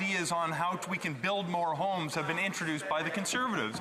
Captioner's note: speaking French